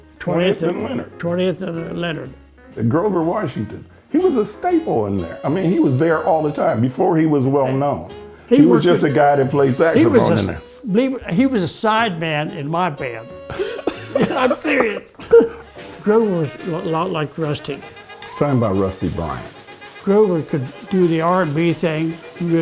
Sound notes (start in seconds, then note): 13.4 laughter